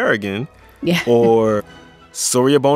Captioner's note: laughter